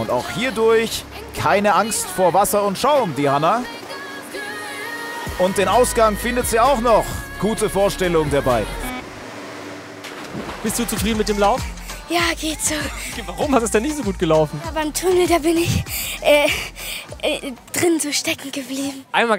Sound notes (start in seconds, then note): 8.9 Plätschern